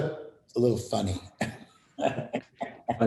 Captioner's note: laughter